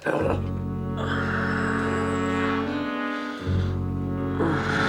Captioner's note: groans